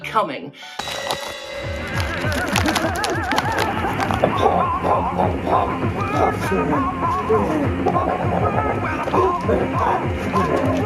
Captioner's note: musical grunting